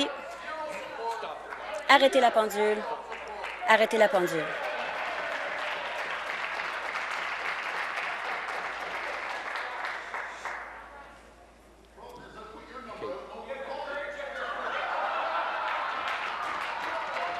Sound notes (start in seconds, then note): 6.4 voice trailing; 12.3 applause